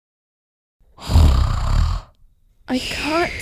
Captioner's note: snoring